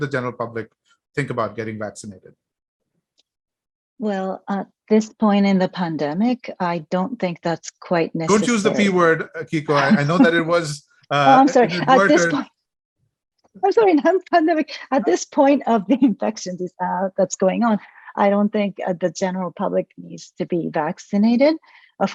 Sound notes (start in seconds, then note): 9.7 laughs